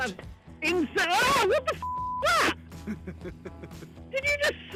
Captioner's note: beep; screams